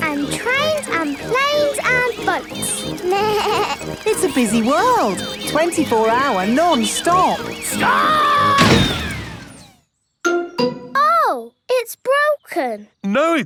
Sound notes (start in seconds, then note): 3.1 bleats; 8.4 thuds